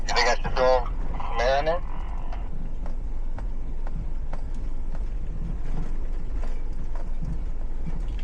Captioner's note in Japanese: 無線の通信